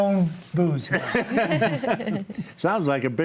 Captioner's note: group laughs